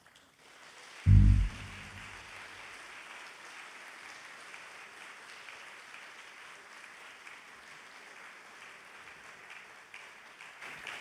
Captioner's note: applause